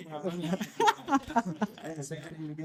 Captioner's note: laughing